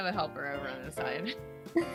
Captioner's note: group: laughter